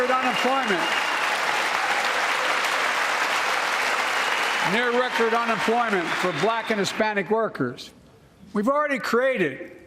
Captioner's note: cheers and applause